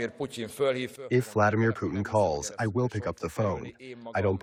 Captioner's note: through translator